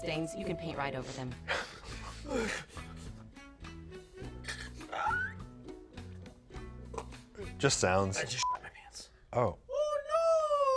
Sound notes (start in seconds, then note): 2.1 groans and grunts; 8.4 beep